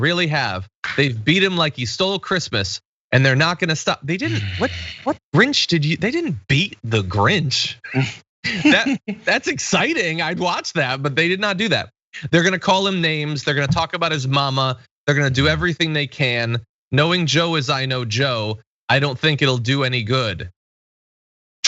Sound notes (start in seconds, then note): 8.4 laugh